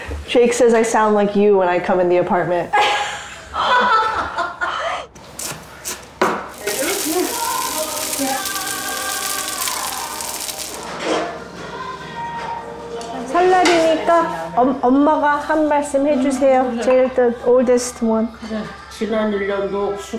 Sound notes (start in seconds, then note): 3.1 laughing; 6.4 food sizzling; 13.4 speaking Korean